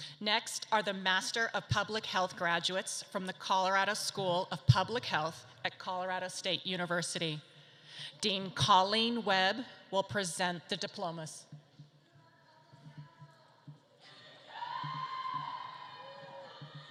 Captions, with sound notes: Next are the Master of Public Health graduates from the Colorado School of Public Health at Colorado State University. Dean Colleen Webb will present the diplomas. (audience cheers)